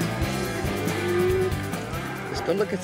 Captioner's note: cattle moo